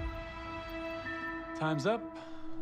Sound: chime

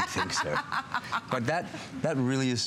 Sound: laughter

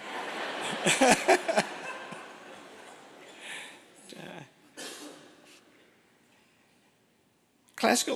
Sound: laughter

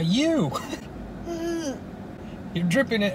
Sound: laughing

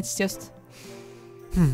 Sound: breathe in

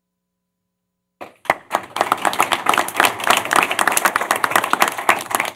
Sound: applause

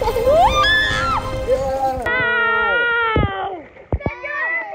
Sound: screaming and splashing

